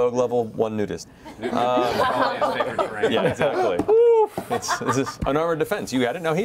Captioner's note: laughter